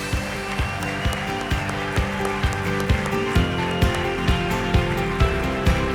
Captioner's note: crowd cheering and applauding; upbeat music